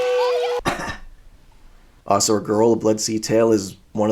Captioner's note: cough